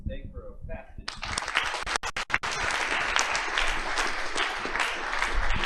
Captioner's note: applause